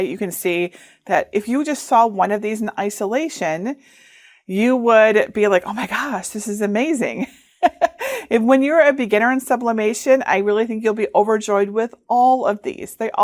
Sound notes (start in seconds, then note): 7.6 laughing